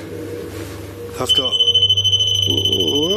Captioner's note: digital beeping